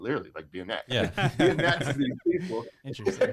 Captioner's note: laughing